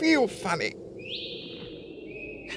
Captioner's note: whistling continues in the distance